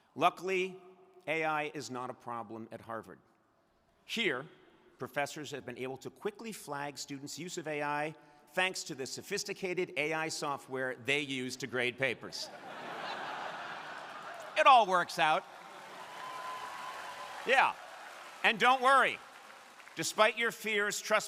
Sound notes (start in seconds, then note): 12.4 crowd laughing; 16.3 crowd applauding